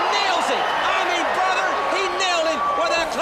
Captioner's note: crowd chatter